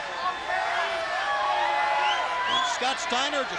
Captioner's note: crowd shouting